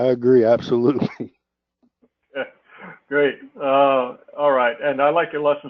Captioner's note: laugh; laugh